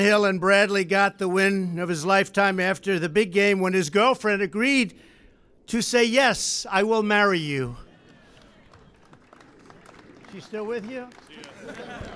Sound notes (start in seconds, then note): 7.6 applause